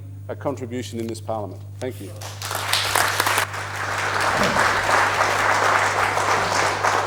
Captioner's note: applause